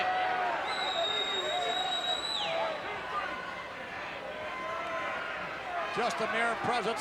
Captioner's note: crowd cheering; audience whistling